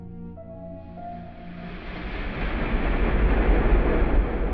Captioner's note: thunder rumbling